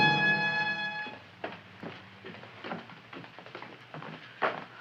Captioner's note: feet thumping